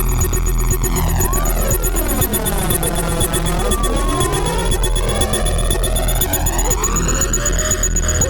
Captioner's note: tension music building; police sirens blaring